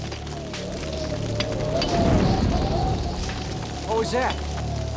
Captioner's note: whooshing sound